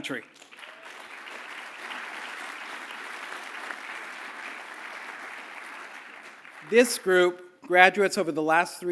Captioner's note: applause